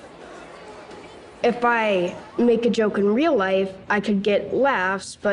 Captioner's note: indistinct chatter